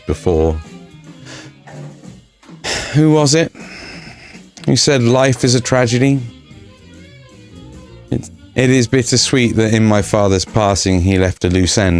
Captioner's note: sigh